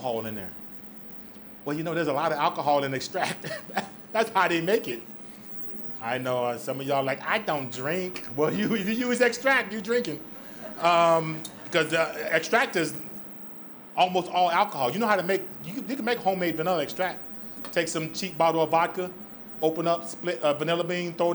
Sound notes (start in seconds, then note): 3.2 laughs; 10.2 audience laughs